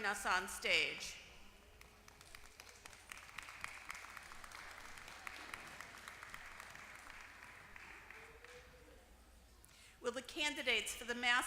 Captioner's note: applause